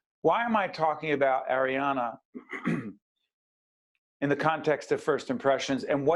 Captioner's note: clears throat